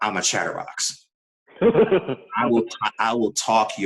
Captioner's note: laughing